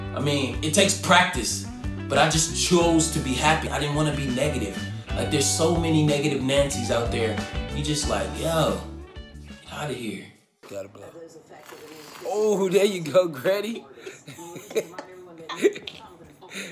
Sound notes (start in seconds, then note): 11.6 air inflating balloon; 14.0 laughter